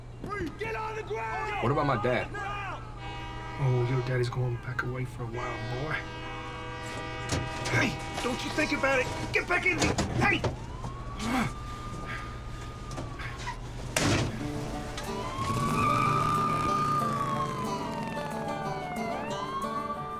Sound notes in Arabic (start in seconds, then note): 7.1 يُفتح باب الشاحنة; 11.0 صفارات الشرطة; 13.8 يغلق باب الشاحنة; 15.4 صفارات الشرطة، تصرخ الإطارات